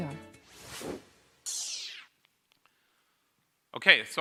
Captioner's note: logo whooshes